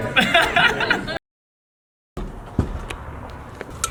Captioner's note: laughs